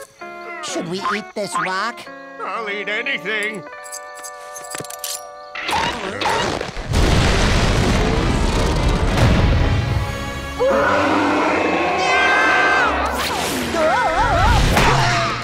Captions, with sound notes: Should we eat this rock? I'll eat anything. [roaring] [screaming]